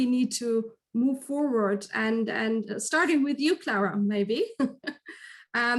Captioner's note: chuckles